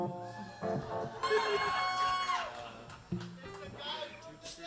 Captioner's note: audience cheers